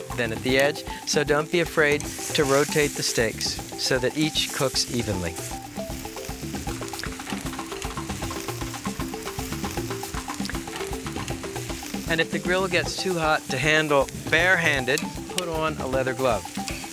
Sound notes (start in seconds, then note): 6.1 sirloin sizzling; 6.1 upbeat music